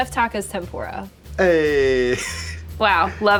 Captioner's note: chuckles